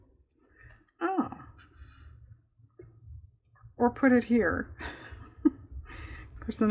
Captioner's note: laughs